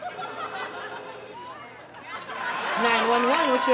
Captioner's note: audience laughing